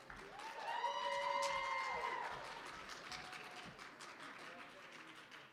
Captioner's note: applause